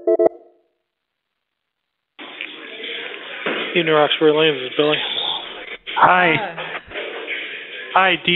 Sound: phone ringing

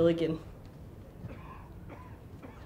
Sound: audience member coughs

